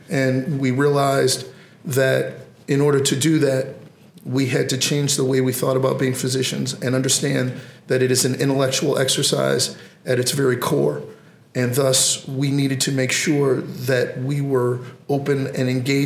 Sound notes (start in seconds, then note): none